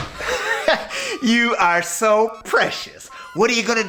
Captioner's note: laughing